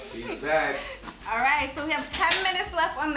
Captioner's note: food sizzling